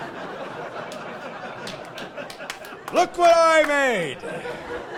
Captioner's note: laughing